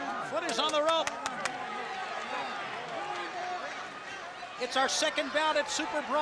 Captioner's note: crowd chatter